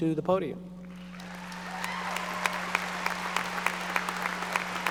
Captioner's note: audience applauding